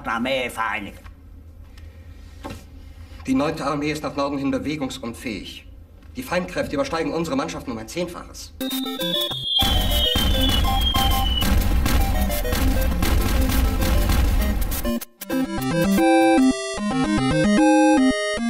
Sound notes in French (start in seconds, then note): 4.4 parlant un anglais simple